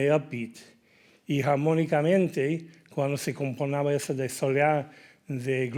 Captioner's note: speaking in Spanish